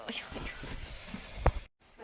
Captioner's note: +inhale through teeth+